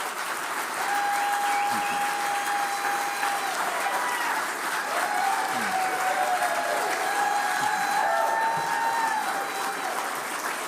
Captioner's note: applause